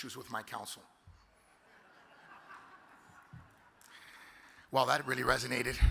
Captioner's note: audience laughs